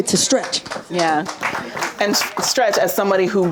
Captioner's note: audience applauding